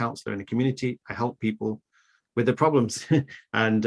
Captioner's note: chuckles